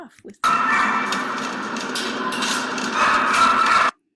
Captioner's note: dog barks